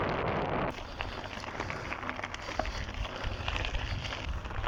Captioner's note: heavy breathing